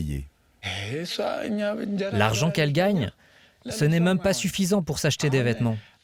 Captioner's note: speaking foreign language